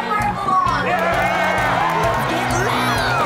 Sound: cheering, music playing

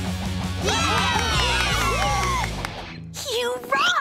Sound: cheering

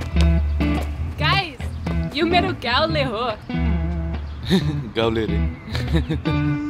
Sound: hahahhaha

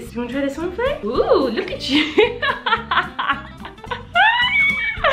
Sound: laughs

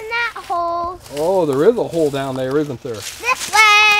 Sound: voiceover

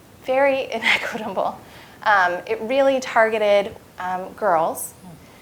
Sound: laugh

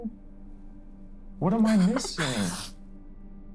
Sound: laughs; tense music

